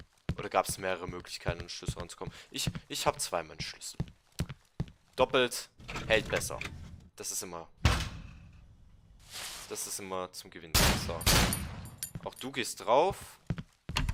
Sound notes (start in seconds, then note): 7.8 door shuts; 10.8 2 Glock shots